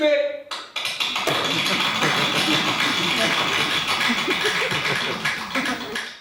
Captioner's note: applause